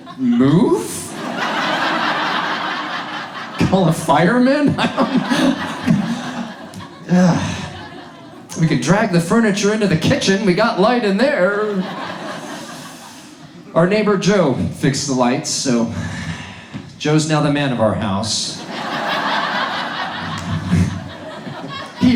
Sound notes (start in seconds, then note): 1.7 audience laughs; 6.3 audience laughs; 11.4 audience laughs; 18.5 audience laughs